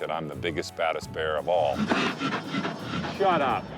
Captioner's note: bear huffing